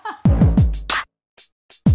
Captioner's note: laughter; upbeat music